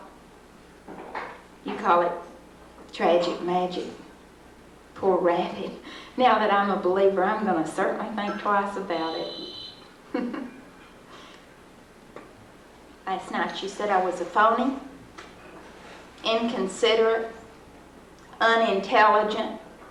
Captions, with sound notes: You call it tragic magic, poor rabbit. Now that I’m a believer, I’m going to certainly think twice about it. [Giggles] Last night you said I was a phony, inconsiderate, unintelligent,